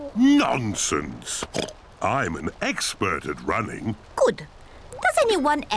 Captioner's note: oinks